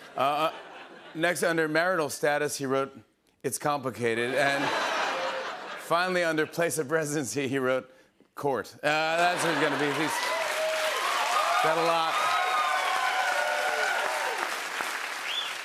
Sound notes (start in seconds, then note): 9.2 cheers and applause